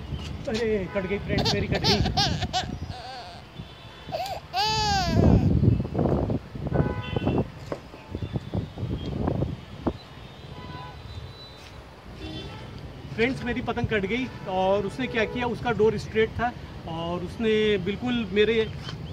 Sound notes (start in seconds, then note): 6.7 car horns